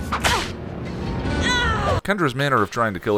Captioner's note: attack noises